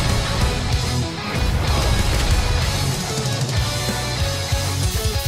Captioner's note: low rhythmic music continues; explosions blasting